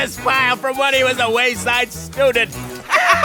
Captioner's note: laugh